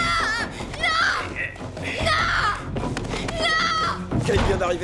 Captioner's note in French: Juliette crie; Cri fort